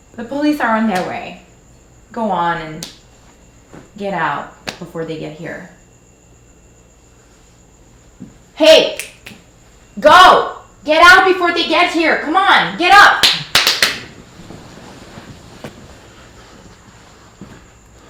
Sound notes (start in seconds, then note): 8.9 snaps fingers; 13.2 both clapping hands